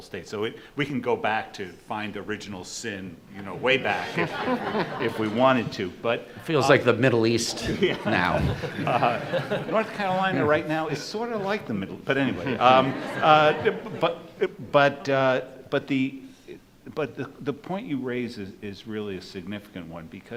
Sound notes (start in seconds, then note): 3.6 group laughs; 12.1 audience laughs